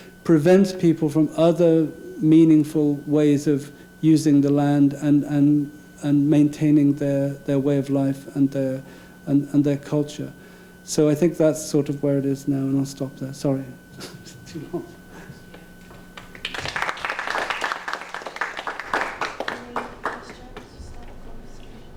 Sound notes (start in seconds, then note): 14.0 laughing; 16.1 applause